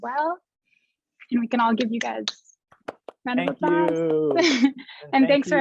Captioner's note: clapping